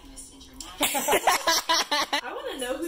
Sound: laughing

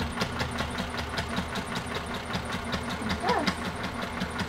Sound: sewing machine whirring

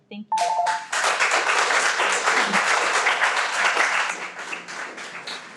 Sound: everyone applauds

